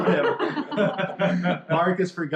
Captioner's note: laughter